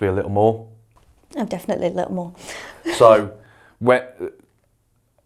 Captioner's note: chuckles